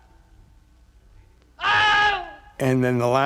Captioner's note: studio recording, man screaming